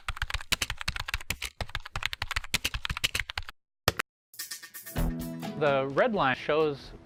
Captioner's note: sound of typing